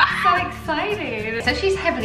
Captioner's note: gasps